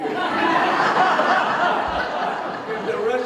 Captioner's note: audience Laughter